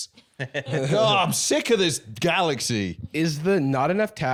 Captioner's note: laughing